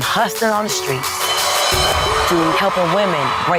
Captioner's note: crowd cheers